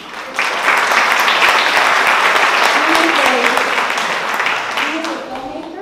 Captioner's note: applause